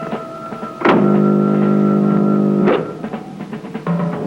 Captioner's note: buzzing; dramatic music